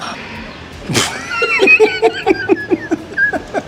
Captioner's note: both Laugh